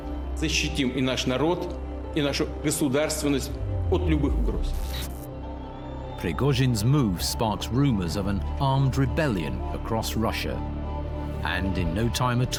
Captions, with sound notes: (Vladimir speaks in Russian) (static hisses and buzzes) Prigozhin's move sparks rumors of an armed rebellion across Russia, and in no time at all,